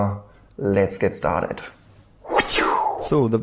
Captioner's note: mouth swooshes